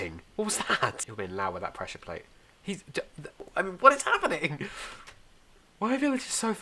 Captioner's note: stutters